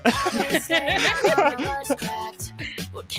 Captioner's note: laughing